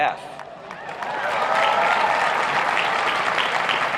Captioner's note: applauding